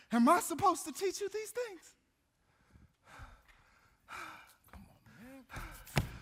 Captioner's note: panting